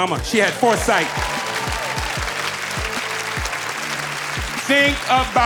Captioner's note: audience applauding; audience cheering